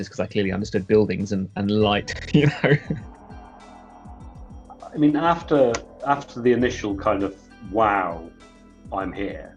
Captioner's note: laughs